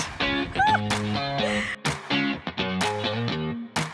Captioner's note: laughing